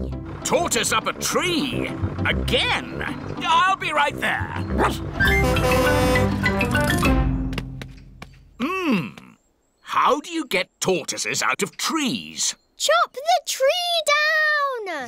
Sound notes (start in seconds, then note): 4.7 barks; 4.9 horn honking